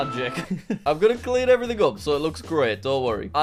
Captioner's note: chuckles